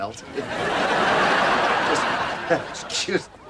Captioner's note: audience laughs